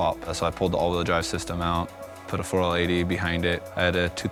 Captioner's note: none